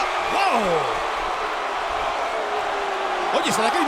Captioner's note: applause